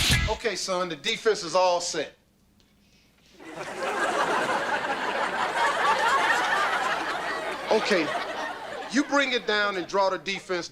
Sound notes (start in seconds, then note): 0.0 funky beat; 3.4 audience laughter